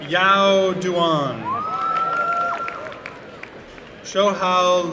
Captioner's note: applause and cheering